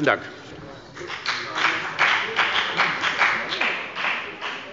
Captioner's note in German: Beifall bei der FDP